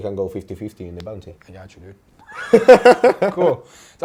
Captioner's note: both laughs